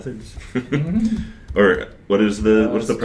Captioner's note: chuckles